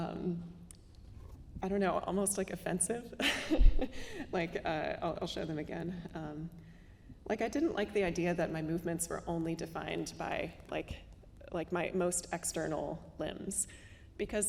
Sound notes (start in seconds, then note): 3.2 laughing